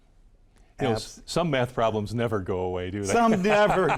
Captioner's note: laughs